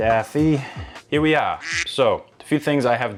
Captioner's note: duck quacks